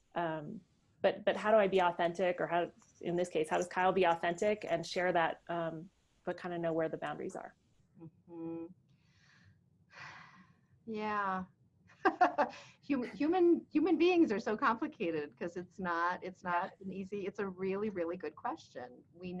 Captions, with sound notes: But how do I be authentic, or in this case, how does Kyle be authentic and share that but kind of know where the boundaries are? - Mm-hmm. (sighs) Yeah. (laughs) Human beings are so complicated, 'cause it's not an easy, it's a really, really good question.